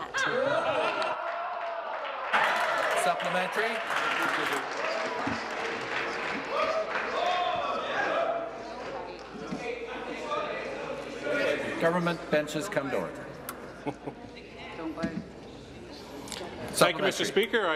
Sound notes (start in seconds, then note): 7.0 applause